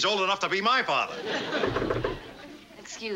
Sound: knocking at door

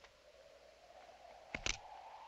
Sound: click

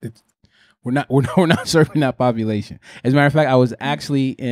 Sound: chuckles

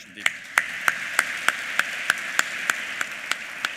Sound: applause

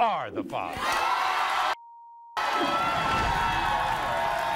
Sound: audience cheers

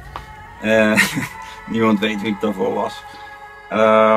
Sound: haha

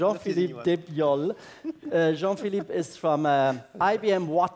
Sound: laugh

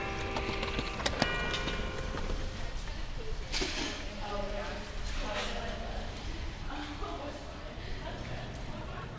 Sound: Skateboards whizzing past on sidewalk Storke tower chiming; Voices and bikes echoing in Pardall tunnel; distant voices and laughter Bikes quietly passing

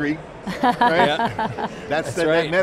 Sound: chuckles

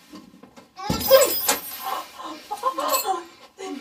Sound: screw breaking; whimpering

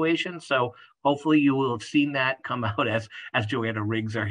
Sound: laugh

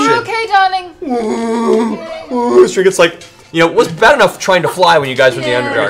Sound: worried bear noises

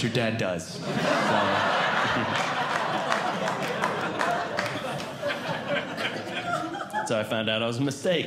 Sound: audience Laughing

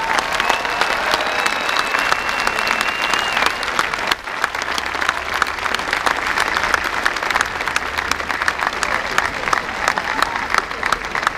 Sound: applause

